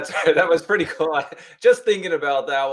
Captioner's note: laughing